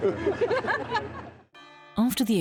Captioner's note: all laughing